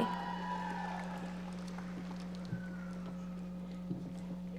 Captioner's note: audience applauding